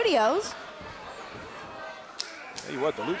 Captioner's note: crowd cheering